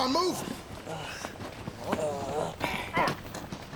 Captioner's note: groaning